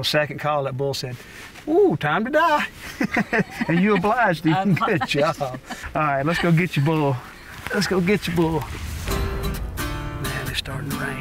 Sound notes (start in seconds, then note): 2.8 laughter; 8.3 twangy guitar